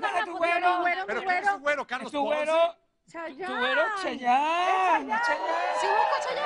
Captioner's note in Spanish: gritan